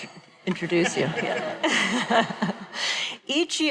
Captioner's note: laughing